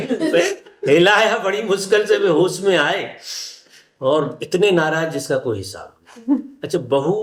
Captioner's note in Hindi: हंसी